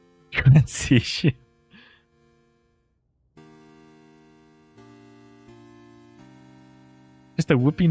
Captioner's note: laughter